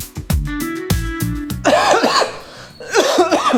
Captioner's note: coughing